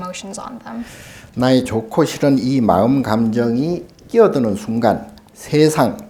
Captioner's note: speaking Korean